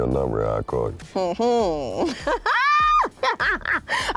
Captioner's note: laughs